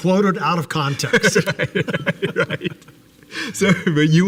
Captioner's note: both laughing